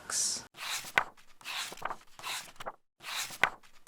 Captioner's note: pages turning